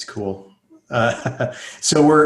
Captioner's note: laughing